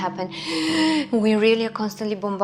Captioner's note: gasping